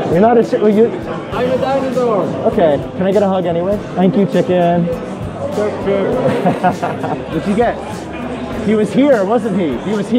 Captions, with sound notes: You're not a chicken? -- I'm a dinosaur! OK. Can I get a hug anyway? Thank you, chicken! --Chirp, chirp, hiss! (laughing) What did ya get? He was here, wasn't he?